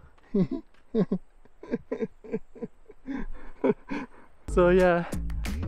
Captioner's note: laugh